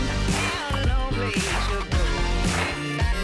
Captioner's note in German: Rhythmisches Klatschen